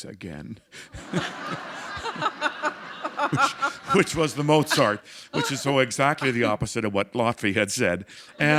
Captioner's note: laughter